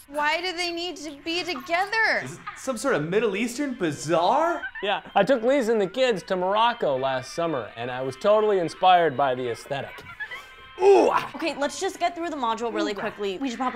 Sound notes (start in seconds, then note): 4.7 giggling on visor; 9.8 giggling on visor; 10.8 grunts